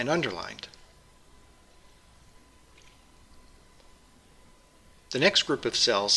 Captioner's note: pause